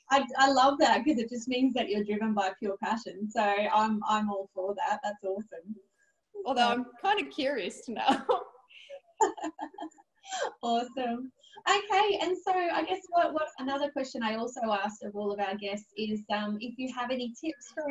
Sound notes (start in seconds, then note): 9.2 laughs